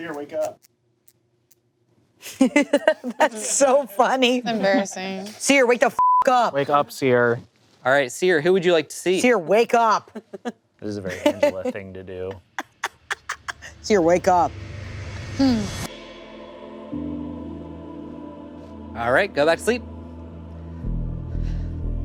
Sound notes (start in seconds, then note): 6.0 beep; 12.3 laughing